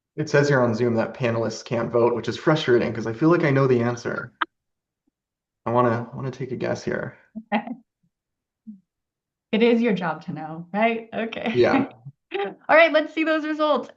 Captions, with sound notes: It says here on Zoom that panelists can't vote, which is frustrating 'cause I feel like I know the answer. (laughs) I wanna, I wanna take a guess here. Okay (laughs). It is your job to know, right? Okay (laughs). Yeah. All right, let's see those results.